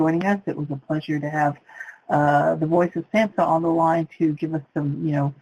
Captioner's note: voice muffled